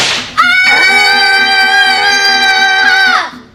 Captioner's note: screams